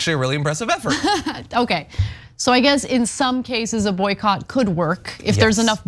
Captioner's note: laugh